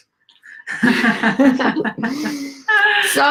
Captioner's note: laughing